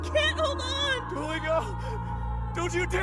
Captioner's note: shrieking